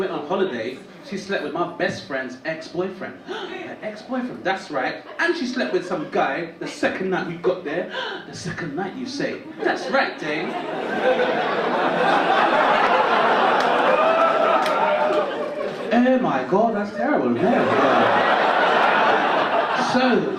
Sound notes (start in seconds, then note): 3.3 gasps; 7.9 gasps; 13.5 audience laugh